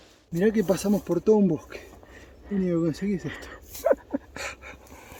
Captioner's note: laughs